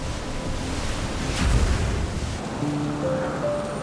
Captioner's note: waves crash